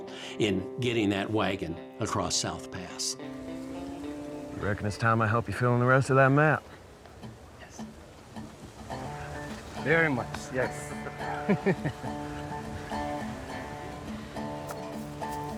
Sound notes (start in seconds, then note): 7.4 says softly; 9.3 says louder; 10.9 chuckles